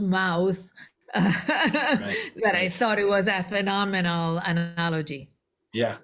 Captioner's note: laughter